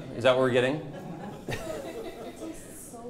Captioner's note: participants laughing